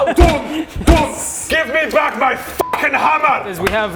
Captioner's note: boom!